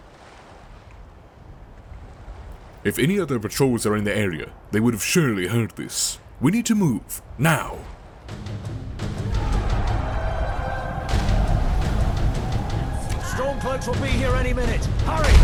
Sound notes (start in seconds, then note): 8.3 battle music; 8.7 catapults firing